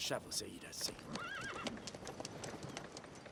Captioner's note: neigh